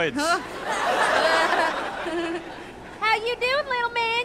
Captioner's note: laughter